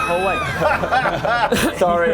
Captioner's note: winning laugh